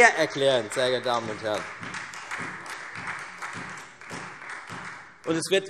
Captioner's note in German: Beifall Freie Demokraten